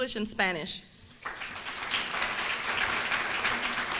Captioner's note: applause